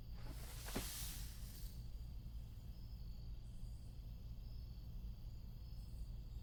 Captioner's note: crickets chirping; distant rustling